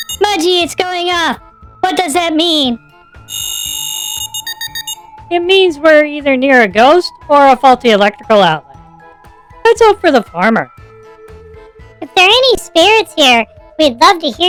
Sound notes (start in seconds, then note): 5.5 sarcastically